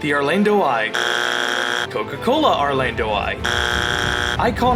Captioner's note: buzzer; buzzer